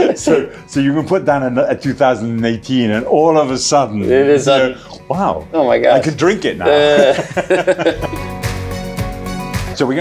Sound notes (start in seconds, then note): 6.6 men laughing; 8.1 upbeat music